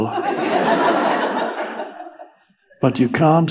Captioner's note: audience laughs